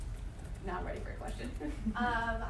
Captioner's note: chuckling